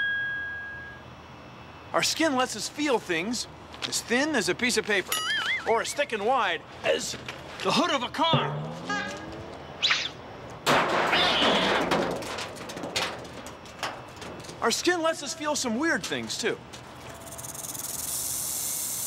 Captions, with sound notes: OUR SKIN LETS US FEEL THINGS AS THIN AS A PIECE OF PAPER, OR AS THICK AND WIDE AS THE HOOD OF A CAR. [ HORN HONKS ] [ CRASHING, CAT SCREECHES ] OUR SKIN LETS US FEEL SOME WEIRD THINGS, TOO. [ RATTLING ]